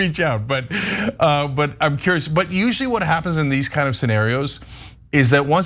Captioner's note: laugh